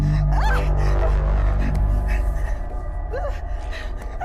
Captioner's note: Heather breathing heavily; Heather shrieking